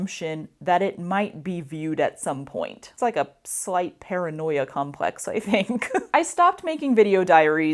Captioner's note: laughter